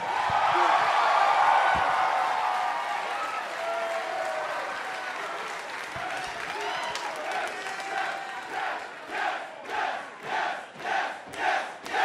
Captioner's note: crowd cheering